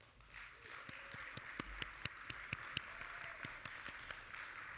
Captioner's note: audience applauding